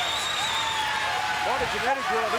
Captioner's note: crowd cheers